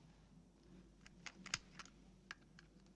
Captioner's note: click